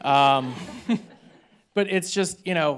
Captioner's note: group chuckles